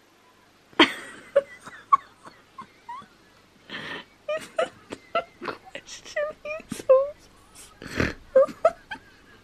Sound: laughing; snorts

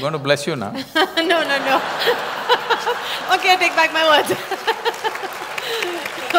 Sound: laughter; applause

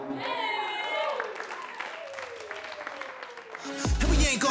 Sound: cheering

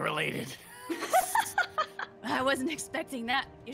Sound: laughing

